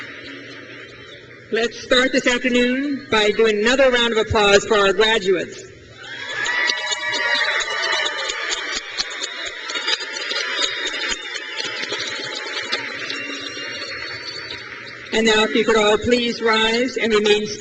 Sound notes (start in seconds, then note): 6.1 crowd cheers